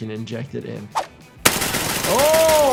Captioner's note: gun banging